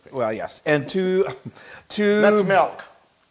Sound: laugh

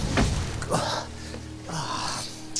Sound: groaning

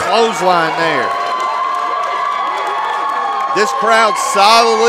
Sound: crowd cheering

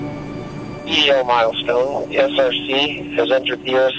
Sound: voice on radio

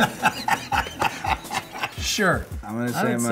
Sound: laughing

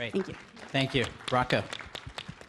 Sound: applause

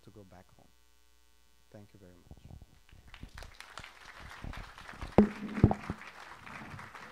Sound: applause

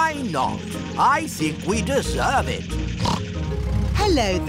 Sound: snorts

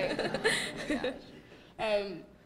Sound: laughter

